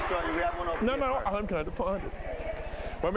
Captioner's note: applause